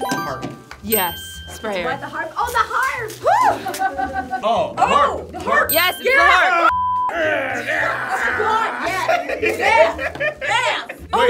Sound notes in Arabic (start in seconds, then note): 7.7 زمارة